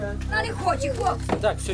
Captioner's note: bubble of voices